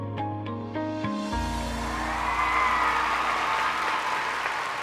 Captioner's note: music fades; cheers and applause